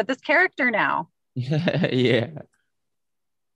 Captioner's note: snickers